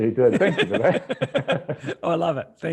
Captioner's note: laughing